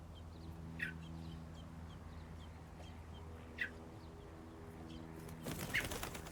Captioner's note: birds chirping; airplane hums overhead; wings flutter